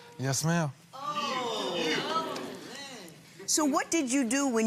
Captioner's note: gallery shouts